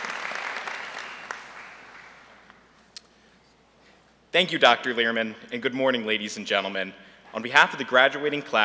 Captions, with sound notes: THE STUDENT BUSINESS BODY. [APPLAUSE] THANK YOU, DR. LEHRMAN, AND GOOD MORNING, LADIES AND GENTLEMEN,